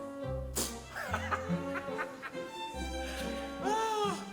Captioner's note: Frank laughs